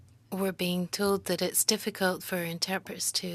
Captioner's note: speaking French